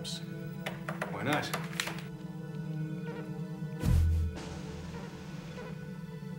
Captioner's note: beeping